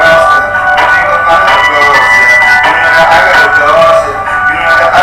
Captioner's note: phone ringing